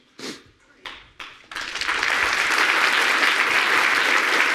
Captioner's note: audience applauding